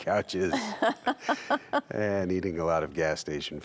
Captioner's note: laughs